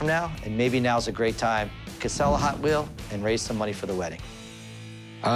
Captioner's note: none